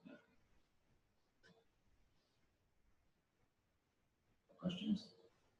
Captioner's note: pause